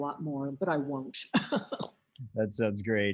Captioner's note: laughs